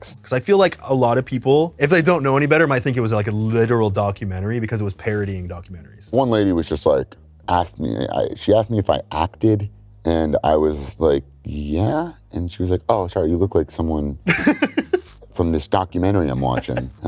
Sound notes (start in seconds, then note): 14.2 laughs